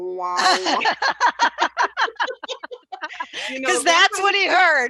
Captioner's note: laughter